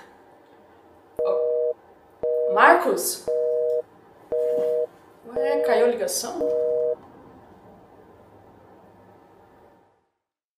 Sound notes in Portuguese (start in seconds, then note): 0.9 barulho ligação sem sinal